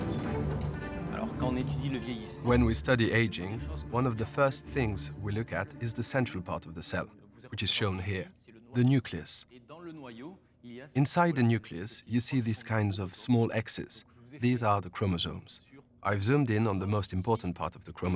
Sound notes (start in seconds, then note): 1.5 speaking French